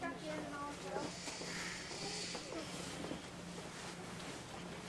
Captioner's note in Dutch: ziekenhuis geklets